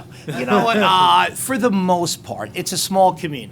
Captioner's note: laughter